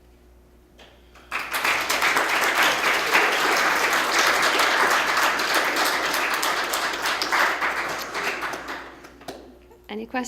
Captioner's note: applause